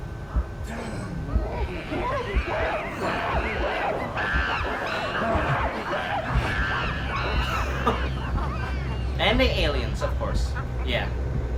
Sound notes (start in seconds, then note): 1.8 monkeys chattering